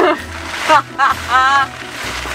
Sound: laughs

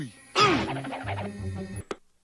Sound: whispering; grunts

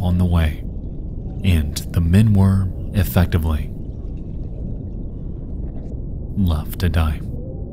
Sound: water sloshing

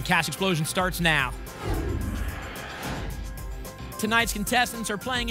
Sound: whoosh

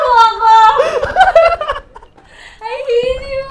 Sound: laughs

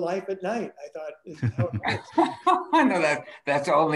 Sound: people laughing

